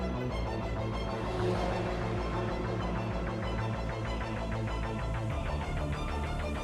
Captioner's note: dramatic lively music; car engines roaring